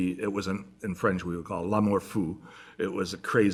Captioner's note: french